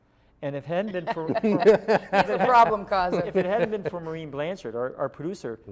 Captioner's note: laughter